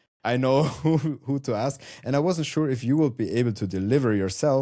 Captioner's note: chuckles